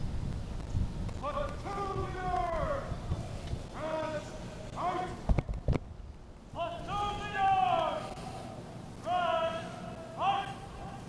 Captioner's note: shouted commands